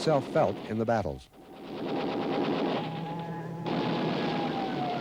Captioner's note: gun pounds